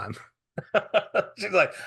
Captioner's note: laughing